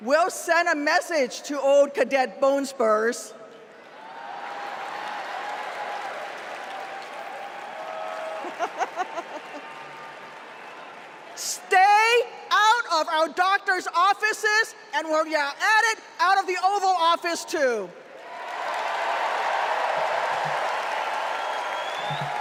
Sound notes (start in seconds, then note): 15.6 cheers and applause